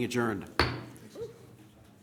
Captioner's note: bangs gavel